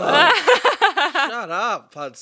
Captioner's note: laughing